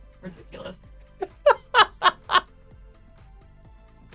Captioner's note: laughing